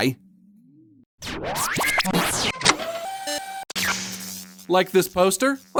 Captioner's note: electricity buzzing